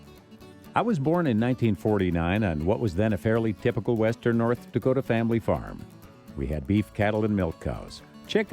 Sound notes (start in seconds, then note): 0.8 voiceover